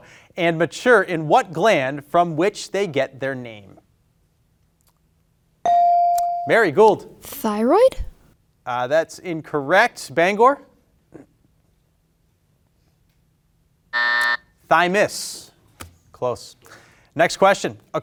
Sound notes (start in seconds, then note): 5.7 bell ringing; 13.9 buzzer buzzing